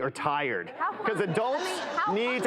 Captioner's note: laughter